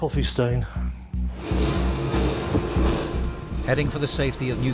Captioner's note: tense music continues; motor whirring